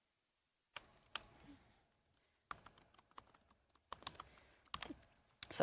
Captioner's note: keyboard clacking